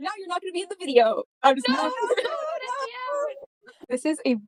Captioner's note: overlapping laughs and cries of “NO!”